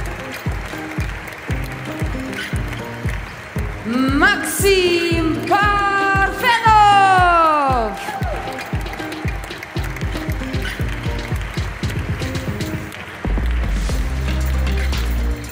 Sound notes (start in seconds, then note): 0.0 applause; 11.0 applause